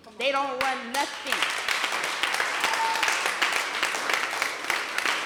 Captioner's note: applause